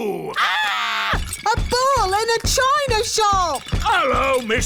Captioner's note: screams; thumping